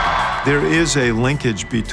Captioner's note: crowd cheering